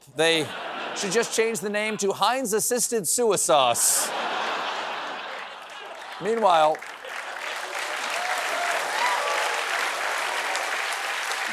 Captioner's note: applause